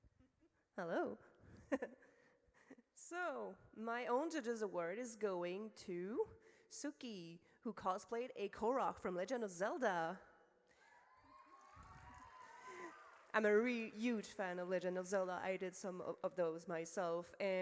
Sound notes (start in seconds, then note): 10.8 audience cheers